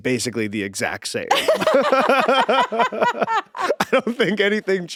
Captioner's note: both laughing